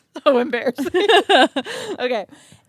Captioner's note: both laugh